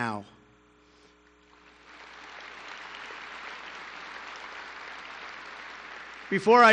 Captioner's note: applause